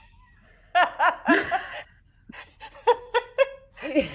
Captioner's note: laughing; group laughing